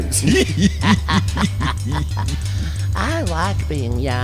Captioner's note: laughter